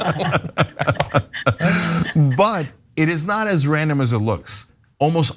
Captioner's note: laugh